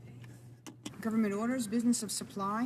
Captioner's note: speaking French